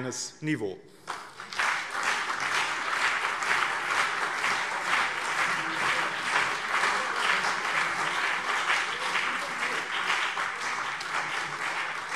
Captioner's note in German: Beifall BÜNDNIS 90/DIE GRÜNEN und CDU